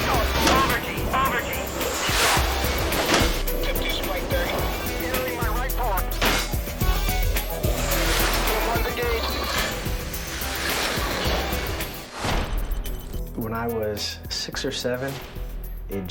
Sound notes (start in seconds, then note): 5.1 metal clanging; 6.3 jet engine roaring; 12.4 rapid beeping